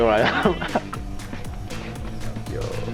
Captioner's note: laughs